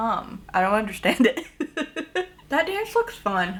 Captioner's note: laughs